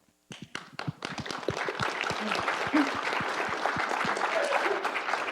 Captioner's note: audience applause